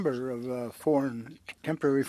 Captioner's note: speaking French